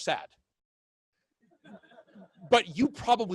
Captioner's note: laughing